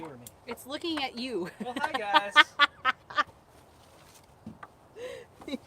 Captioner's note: laughter